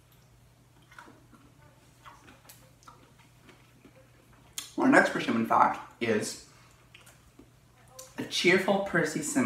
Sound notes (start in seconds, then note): 0.8 crunching